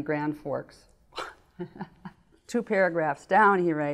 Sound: laughing

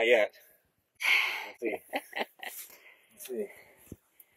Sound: laughing

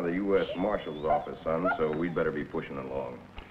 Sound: whimpers

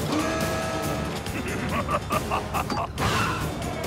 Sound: whirring; evil laughter

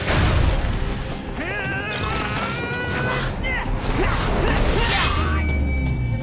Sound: grunting

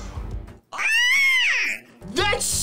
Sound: screams

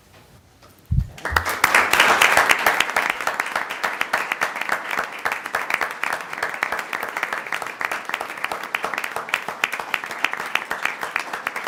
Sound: applause

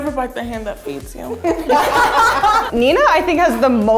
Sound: laughter

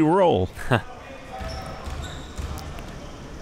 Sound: laughs

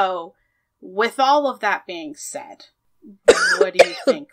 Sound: coughs

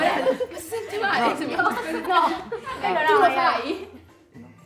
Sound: laughs

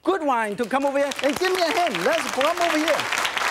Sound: audience claps

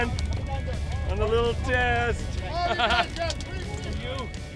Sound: laughs

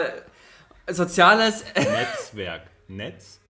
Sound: laughs

